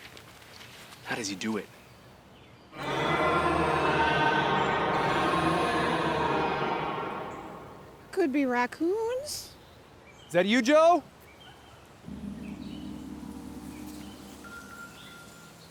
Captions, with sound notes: - How does he do it? (beastly growling) - Could be raccoons. - Is that you, Joe? (suspenseful music)